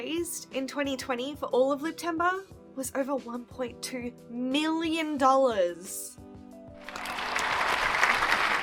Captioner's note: cheering and applause